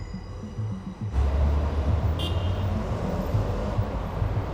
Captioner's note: traffic humming